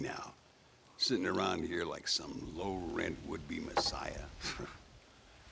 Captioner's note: laugh